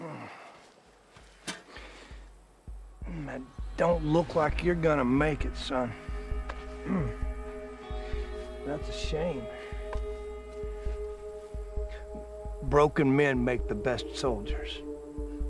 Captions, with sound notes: [Grunts] It don’t look like you’re gonna make it, son. [Clears throat] That’s a shame. Broken men make the best soldiers.